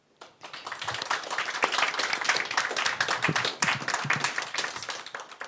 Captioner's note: audience applauds